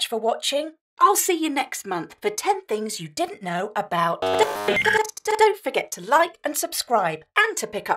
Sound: modem sound

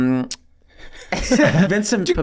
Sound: panel members chuckling

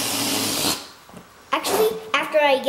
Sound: air escaping

